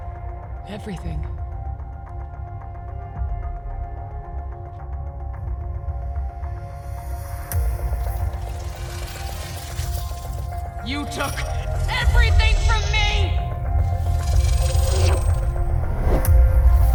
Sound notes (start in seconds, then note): 8.0 creeping digital glitches; 13.8 zapping zounds